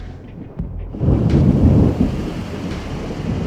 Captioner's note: thunder